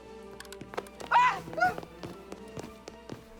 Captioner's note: yelps